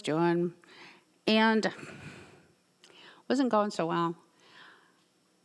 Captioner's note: sighs